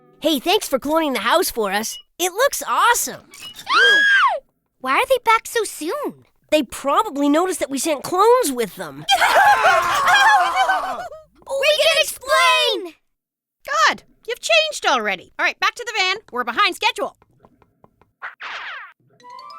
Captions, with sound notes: Hey, thanks for cloning the house for us. It looks awesome. [ gasps/screams ] Why are they back so soon? They probably noticed that we sent clones with them! [ screaming ] Daisy & Robin: We can explain! Good! You've changed already. All right, back to the van, we're behind schedule.